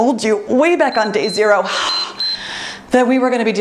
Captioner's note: timer beeps